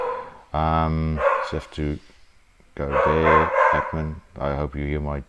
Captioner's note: dog barking